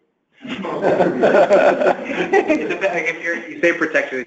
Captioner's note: laughter